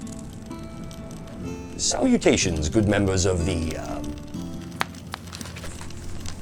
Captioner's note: snaps